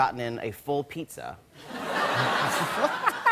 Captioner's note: laughter